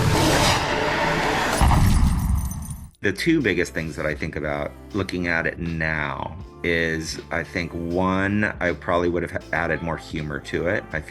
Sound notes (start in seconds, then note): 1.6 shattering glass tinkling